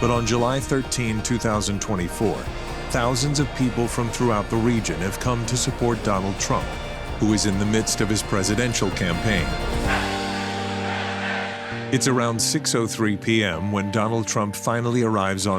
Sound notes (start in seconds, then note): 9.4 people chanting